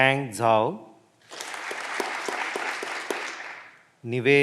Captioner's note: clapping continues